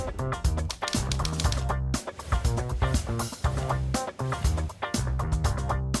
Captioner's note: bright music; typewriter clacks